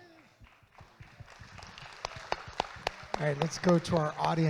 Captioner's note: audience claps